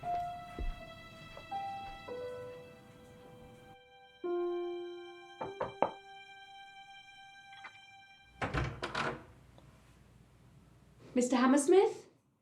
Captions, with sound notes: (gentle orchestral music continues) (hand knocking on door) Mr. Hammersmith?